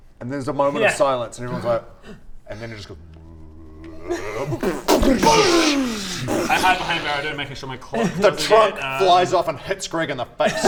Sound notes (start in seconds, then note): 2.2 wrrrrrrrrrrrrrrrrrrrrr; 4.0 rrrRRRMMMMBOOOOOSCCCHCHHHH